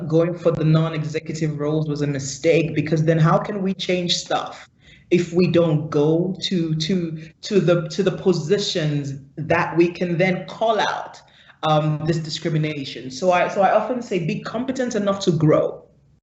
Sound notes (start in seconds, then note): 6.7 stutters